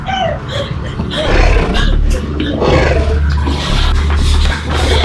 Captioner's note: creature growling